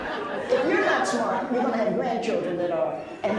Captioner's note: laughs